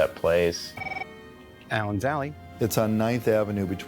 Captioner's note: phone rings